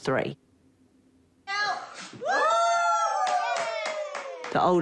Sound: all cheer

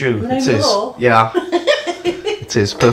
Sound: laughs

